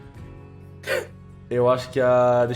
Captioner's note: wheeze